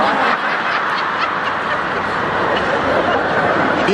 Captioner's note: laughing audience